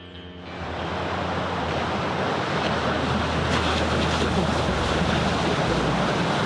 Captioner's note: roaring Pacific ocean